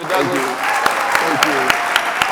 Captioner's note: audience applauding